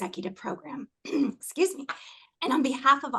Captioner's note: cough